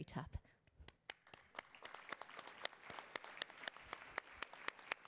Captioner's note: attendees applauding